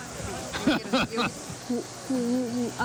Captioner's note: laughter